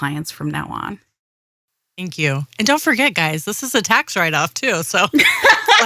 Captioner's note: laughing